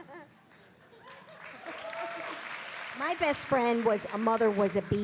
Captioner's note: laughing